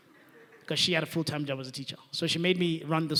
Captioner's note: laughing